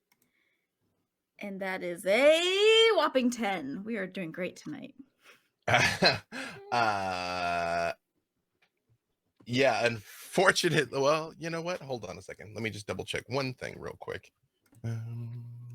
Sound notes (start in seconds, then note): 5.6 laughing